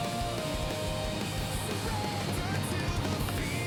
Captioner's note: vehicles driving